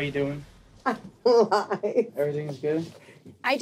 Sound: laughing

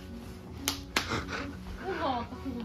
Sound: clap! x2

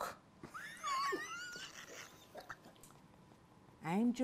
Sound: laughter

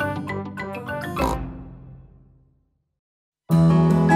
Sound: oink

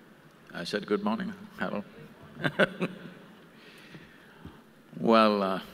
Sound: laughs

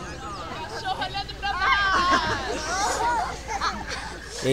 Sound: kids laugh

